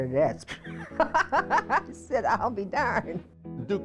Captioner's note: laughing